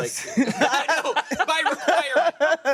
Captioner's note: everyone laughs